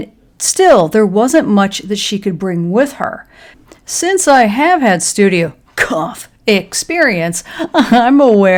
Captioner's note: cough